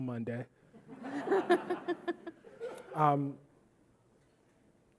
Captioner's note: audience laughing